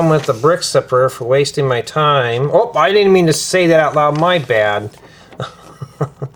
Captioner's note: laughter